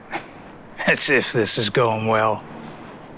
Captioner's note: laughs